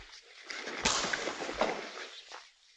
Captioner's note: punch